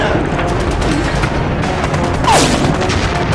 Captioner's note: grunting